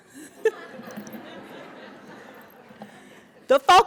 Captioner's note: audience laughing